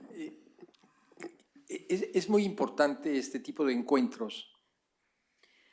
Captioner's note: spanish